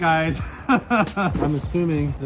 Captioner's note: laughing